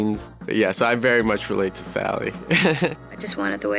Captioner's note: laughs